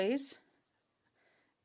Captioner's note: speaking French